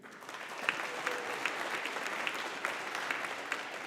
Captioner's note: audience applauding